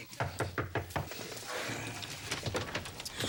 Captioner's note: knock on door